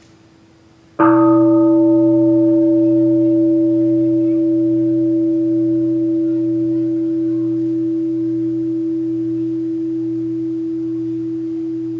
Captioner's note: the bell is invited to sound